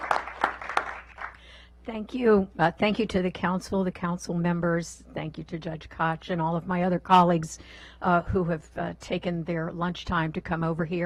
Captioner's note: clapping